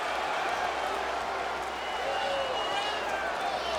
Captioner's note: crowd cheering